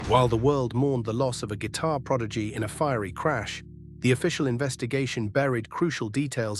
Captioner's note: SFX: dramatic heavy boom